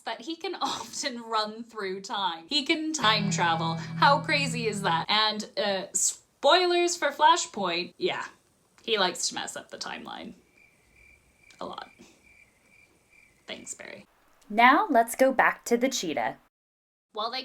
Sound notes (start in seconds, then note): 10.4 crickets